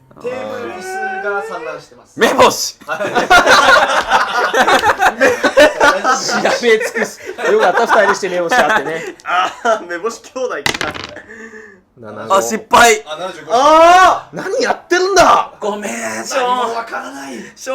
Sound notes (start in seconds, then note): 2.8 everyone laughing